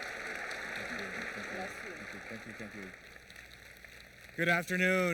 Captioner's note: applause